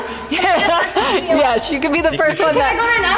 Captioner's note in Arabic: يضحك